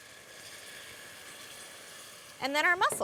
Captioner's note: sizzling